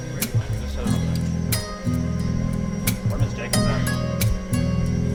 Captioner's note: students continue murmuring